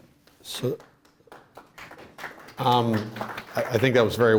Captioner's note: applause